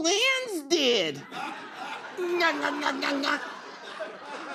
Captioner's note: laughter